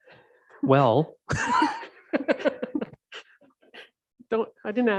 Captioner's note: deputy Mayor laughs